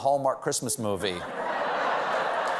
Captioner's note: laughter; applause